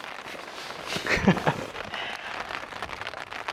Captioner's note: laughs